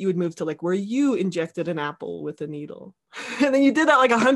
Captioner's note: laughing